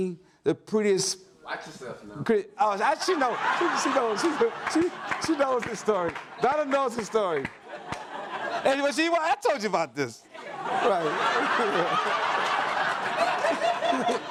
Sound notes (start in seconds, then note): 10.3 audience laughs